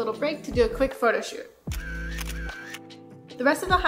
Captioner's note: camera shutter clicks